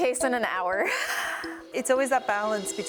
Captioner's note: laughs